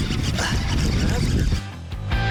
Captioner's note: grunts; upbeat rock music